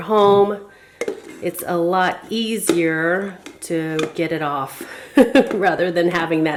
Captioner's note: chuckles